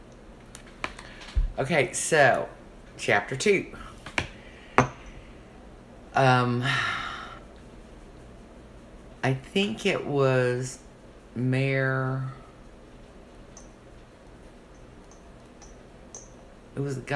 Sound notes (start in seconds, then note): 6.6 sighs